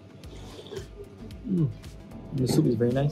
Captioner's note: slurps